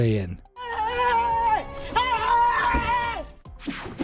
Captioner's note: screams